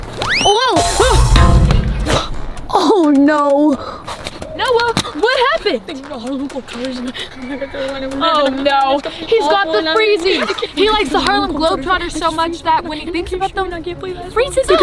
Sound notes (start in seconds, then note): 0.2 slide whistle; 5.9 speaking in gibberish